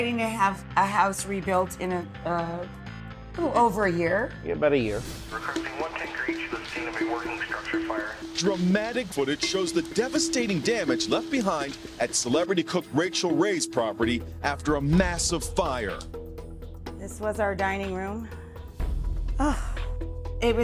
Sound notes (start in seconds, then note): 5.2 firefighter radio chattering; 5.6 dramatic music; 19.4 sighing